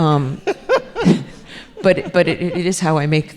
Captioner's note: laughing